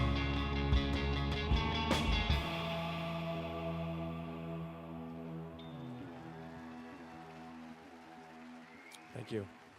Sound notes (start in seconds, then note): 5.1 applause